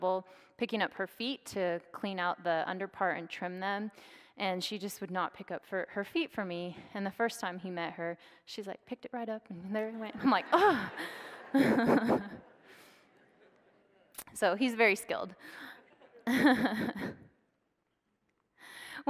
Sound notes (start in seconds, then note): 11.7 audience laughs; 15.8 laughs